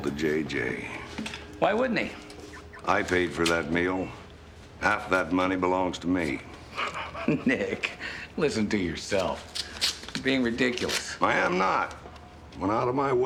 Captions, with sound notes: - He's giving it all to JJ. - Why wouldn't he? - I paid for that meal. Half of that money belongs to me. - (laughs) Nick, listen to yourself. You're being ridiculous. - I am not!